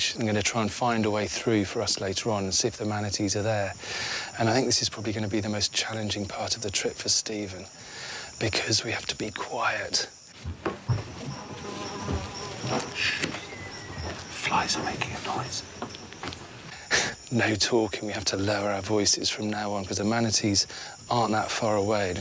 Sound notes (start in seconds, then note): 10.1 flies buzzing; 13.0 hushes; 17.0 chuckles